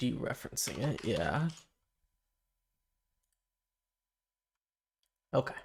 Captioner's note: silence